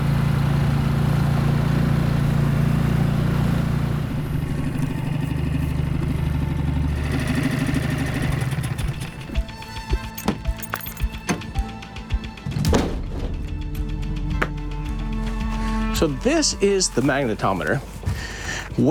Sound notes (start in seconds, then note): 4.0 engine purrs; 12.5 door booms; 14.4 clip clacks